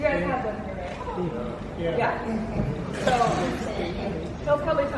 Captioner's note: audience chattering